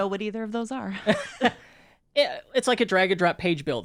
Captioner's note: laughs